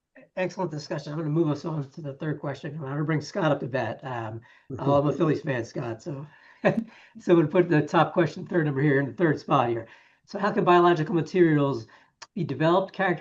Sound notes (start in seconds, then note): 4.7 laughs